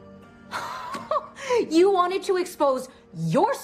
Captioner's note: laughs